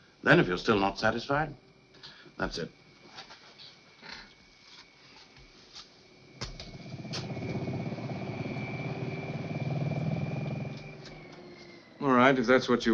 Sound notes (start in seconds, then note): 6.9 motor whirring